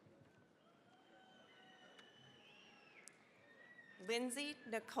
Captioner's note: cheering, applause